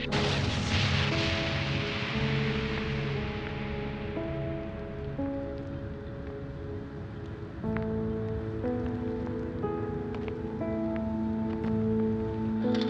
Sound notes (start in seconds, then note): 0.0 vehicle crashes, explodes; 5.1 flames crackling